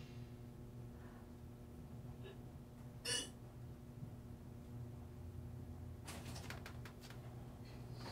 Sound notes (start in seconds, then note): 2.9 gagging